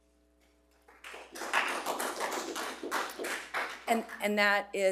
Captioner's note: group applauding